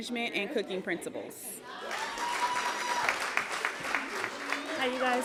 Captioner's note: applause, cheering